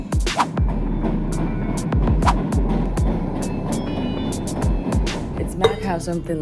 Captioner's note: words whooshing; upbeat music